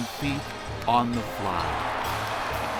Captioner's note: cheers & applause